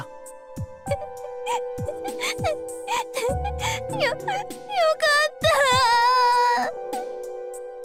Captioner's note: sob; sniffle